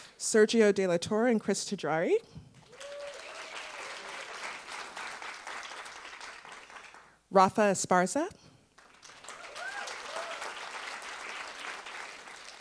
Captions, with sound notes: Sergio De La Torre and Chris Treggiari. (attendees applauding) Rafa Esparza. (attendees applauding)